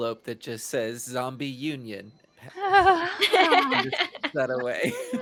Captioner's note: laughs